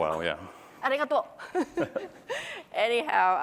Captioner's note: laughter